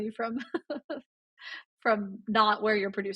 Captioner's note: laughs